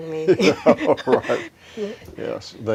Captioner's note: chuckling